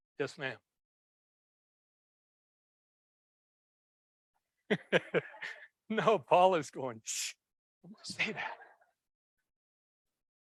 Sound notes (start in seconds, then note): 4.6 laughs; 7.1 shushing